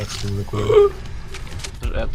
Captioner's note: groan